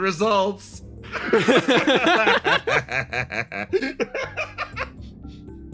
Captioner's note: laughs